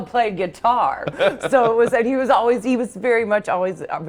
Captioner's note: laughing